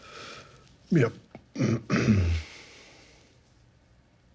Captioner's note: clears throat